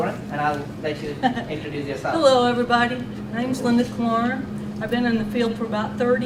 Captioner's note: giggles